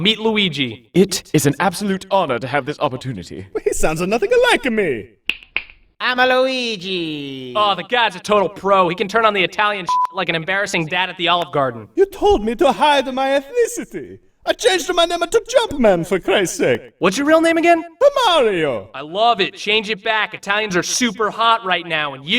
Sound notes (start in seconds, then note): 5.2 snaps fingers; 5.8 luigi in italian accent; 9.8 beep